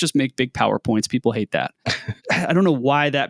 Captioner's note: laughing